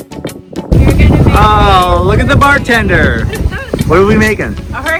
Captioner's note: laughter